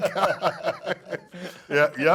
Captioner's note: laughs